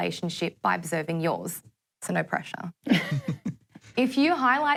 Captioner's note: laughs